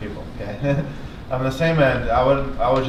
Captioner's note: laughs